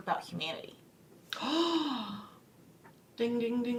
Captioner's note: gasps